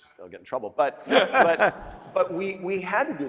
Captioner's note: laughing